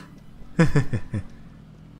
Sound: laughs

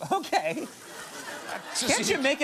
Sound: audience laughing

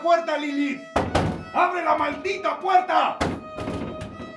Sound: door knocks

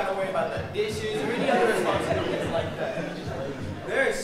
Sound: audience laughing

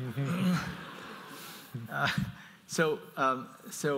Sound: audience laughs

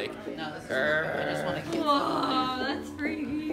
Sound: growls

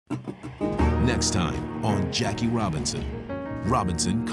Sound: voiceover

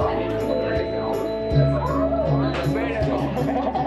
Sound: general chatter; machine beeping; laughter, chatter

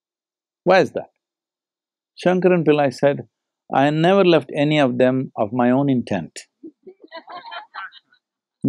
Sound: laughter

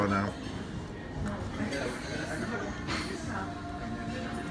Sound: customer chatter

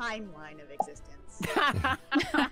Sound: mouth popping noise; all laughing

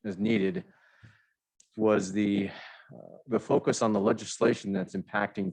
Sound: sigh

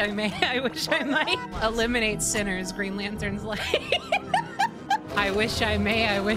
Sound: laughter

